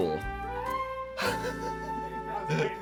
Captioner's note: laughing